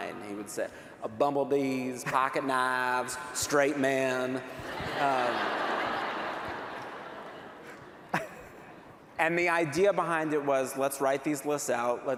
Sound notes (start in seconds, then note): 4.5 laughter